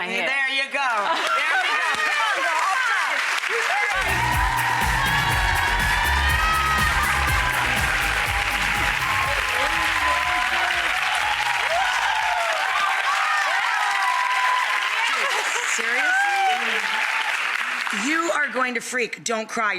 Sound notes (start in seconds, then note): 4.3 upbeat music; 6.0 audience applauds